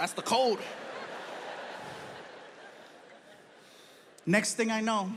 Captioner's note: audience laughs